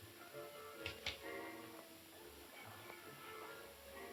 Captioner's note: cocks gun